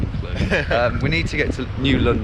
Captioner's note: laughs